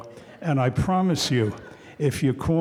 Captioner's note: audience chuckling